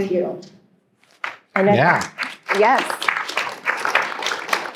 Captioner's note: applause